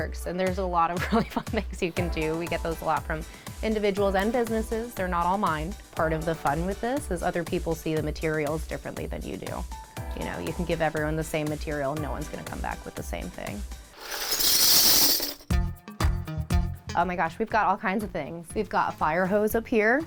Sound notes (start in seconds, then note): 14.1 buttons clinking